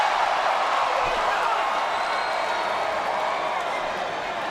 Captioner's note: crowd cheering